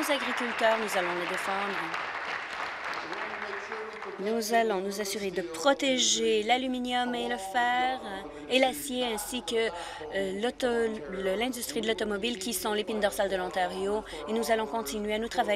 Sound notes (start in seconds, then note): 4.3 applause